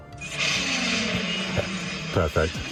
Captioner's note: engine revving